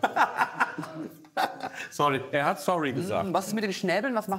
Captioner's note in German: lachend